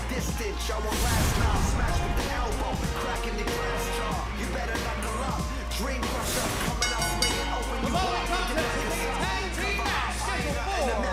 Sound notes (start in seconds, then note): 6.7 bell ringing